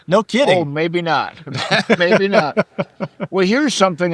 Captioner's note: laughing